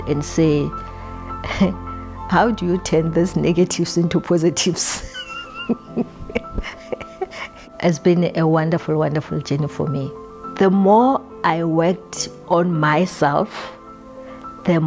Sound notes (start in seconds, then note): 5.0 chuckling